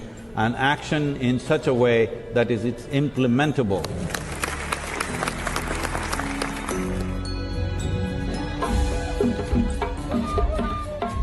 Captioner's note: applause